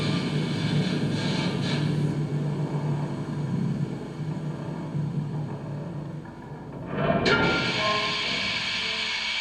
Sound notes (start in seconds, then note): 4.4 metallic creaking; 6.9 a loud clank, a long release of steam